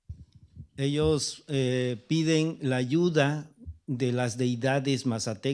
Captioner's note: speaking spanish